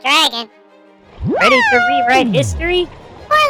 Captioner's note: excited